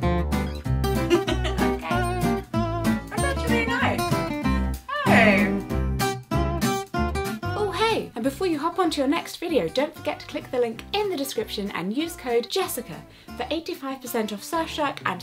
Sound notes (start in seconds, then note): 1.0 laughs